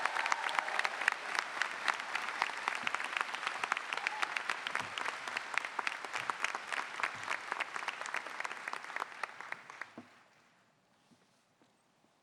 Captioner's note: applause